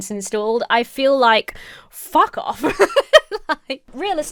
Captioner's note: laughing